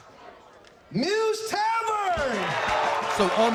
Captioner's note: crowd cheering, clapping